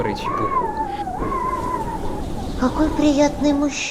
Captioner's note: wind howling